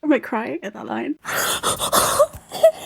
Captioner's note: heavy breathing